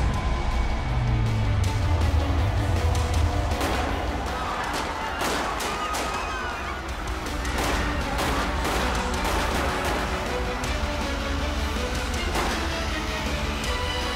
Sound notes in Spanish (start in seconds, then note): 3.3 Tiroteo